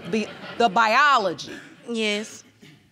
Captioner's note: audience laughing